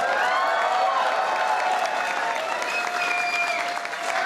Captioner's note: applause